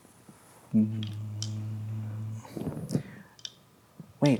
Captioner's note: hums